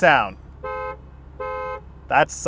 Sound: car honking

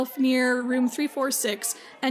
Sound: none

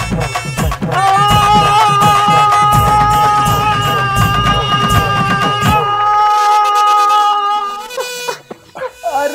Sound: shouting

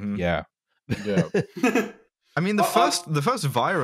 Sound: laughter

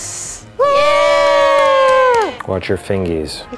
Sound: cheering

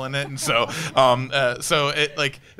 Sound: panelists laughing

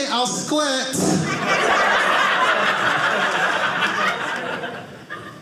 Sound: audience laughing

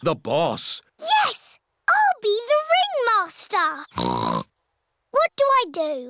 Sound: snorts

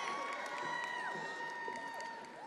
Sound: attendees applauding

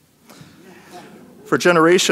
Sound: audience laughing

